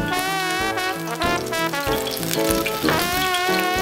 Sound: upbeat jazz music; sizzling

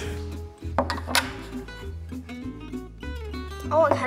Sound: glass dish clunks on table

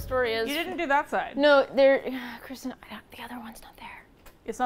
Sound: whispers

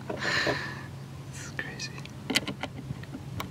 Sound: whispers

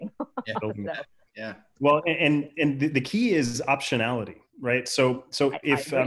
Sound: chuckles

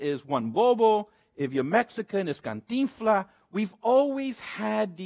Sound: speaks Spanish; speaks Spanish

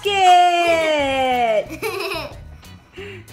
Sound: giggles

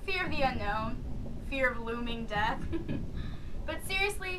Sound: chuckle

